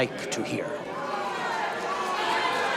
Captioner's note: audience jeering